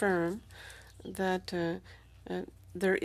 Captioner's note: speaking French